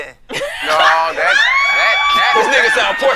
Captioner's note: laughing